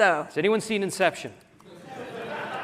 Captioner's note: laughter